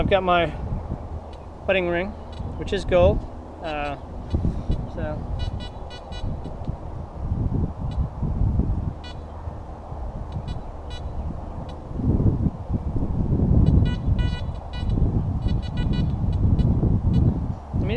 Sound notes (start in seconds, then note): 5.3 detector beeps